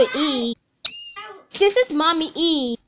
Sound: squeals

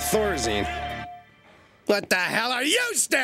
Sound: crowd quiets

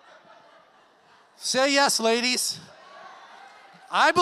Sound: audience laughs; audience clamors

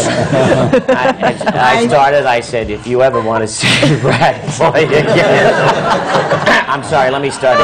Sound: he laughs

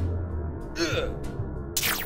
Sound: grunt

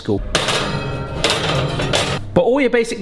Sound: oven shelf clanking

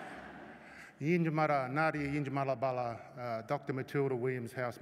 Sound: laughter; non-english speech

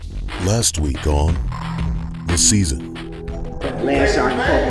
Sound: voiceover

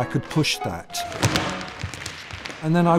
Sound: tap dancing

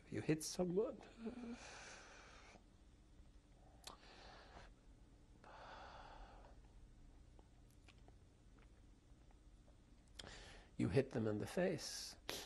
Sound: pauses for 3 seconds; sighs

